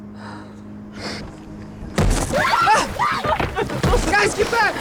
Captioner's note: thud